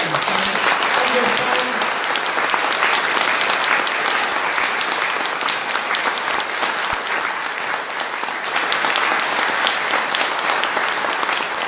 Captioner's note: applause